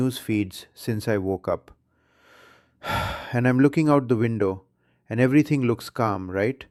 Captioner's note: sighs